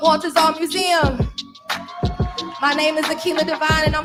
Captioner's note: cheering